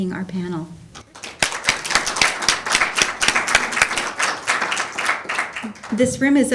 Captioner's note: applause